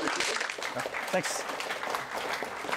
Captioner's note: applause